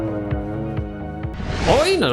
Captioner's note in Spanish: grito